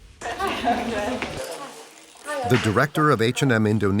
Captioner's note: people chattering